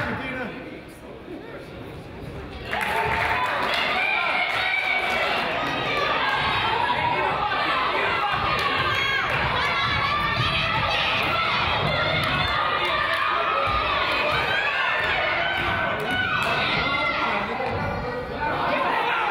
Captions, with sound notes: - Come on, Dina! (crowd applauds) (coach yells) - Go, go.